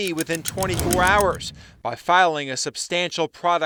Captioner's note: clock ticking